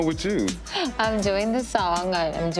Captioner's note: gasps